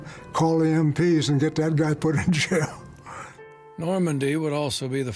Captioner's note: laughs